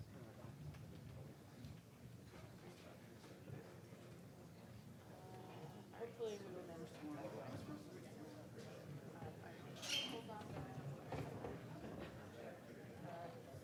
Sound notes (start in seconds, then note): 4.8 speaking faintly off mic; 10.7 ambient chatter